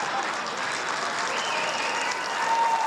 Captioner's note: cheers